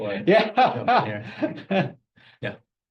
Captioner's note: laughs